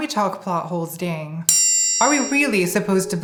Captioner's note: triangle ringing